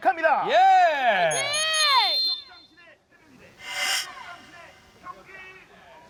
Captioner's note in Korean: 호루라기 소리